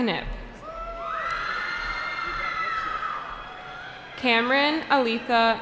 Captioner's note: cheering